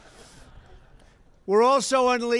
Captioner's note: laughter